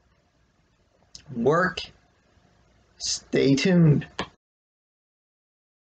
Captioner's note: click